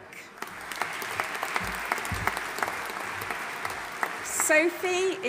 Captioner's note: audience applauding